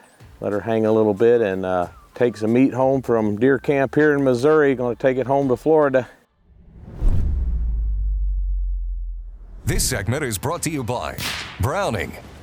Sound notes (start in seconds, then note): 6.4 air whooshing